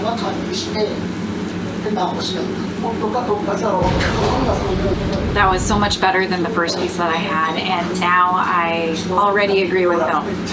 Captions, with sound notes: [explosion sound] That was so much better than the first piece that I had. And now I already agree with Bill.